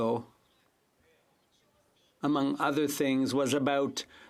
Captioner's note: speaking French